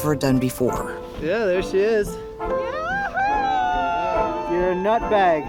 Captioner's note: crowd cheering